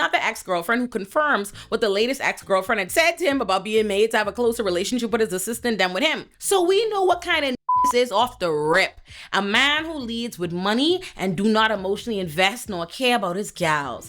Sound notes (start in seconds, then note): 7.6 beep